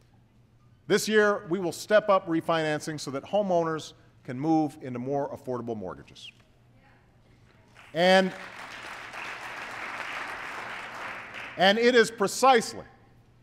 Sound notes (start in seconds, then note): 7.7 applause